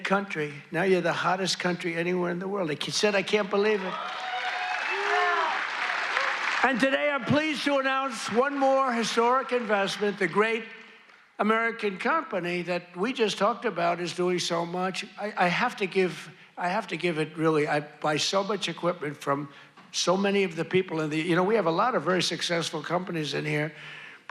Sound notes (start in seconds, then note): 11.3 applause